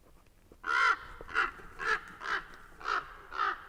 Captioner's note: crows cawing